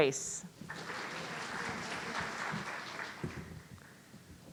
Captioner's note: audience applauding